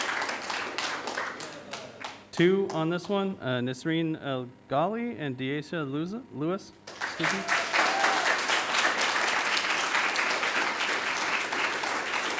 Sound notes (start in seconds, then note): 6.8 audience applauding